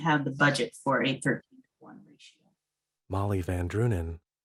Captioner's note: audio trails off